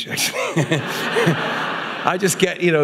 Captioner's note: audience laughing